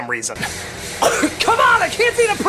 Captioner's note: cough